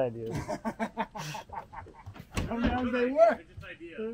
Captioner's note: laughing